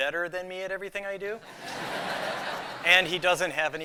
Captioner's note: laughter